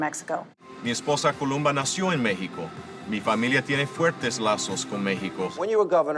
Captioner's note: speaking in foreign language